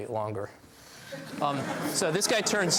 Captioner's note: laughs